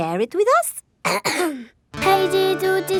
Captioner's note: clears throat